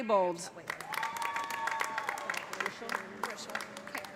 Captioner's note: cheers and applause